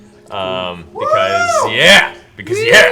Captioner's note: cheers